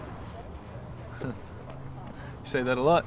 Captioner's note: laughing